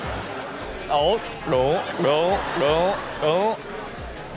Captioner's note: gulping